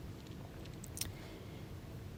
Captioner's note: smacks lips